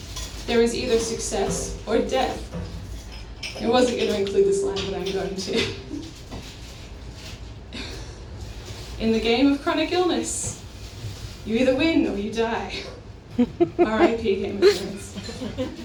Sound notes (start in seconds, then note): 13.3 laughter